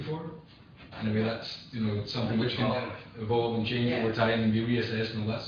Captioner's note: audio distorts